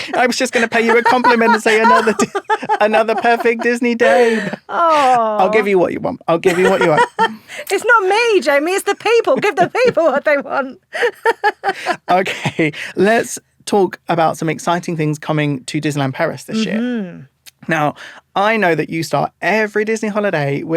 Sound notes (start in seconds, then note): 6.5 laughing